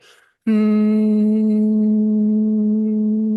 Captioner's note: humming